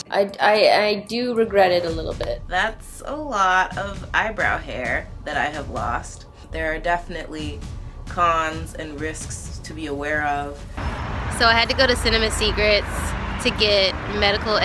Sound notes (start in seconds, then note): 2.7 voiceover